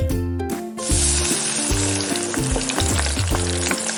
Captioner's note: frying sound